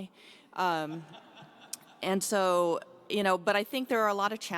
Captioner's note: audience laughs